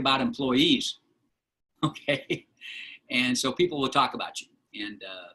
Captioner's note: laughter